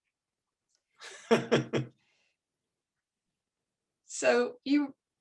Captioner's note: chuckling